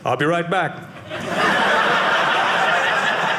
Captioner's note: audience laughing